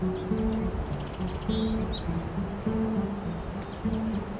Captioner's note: birds chirping